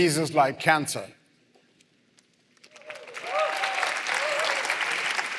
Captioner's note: applause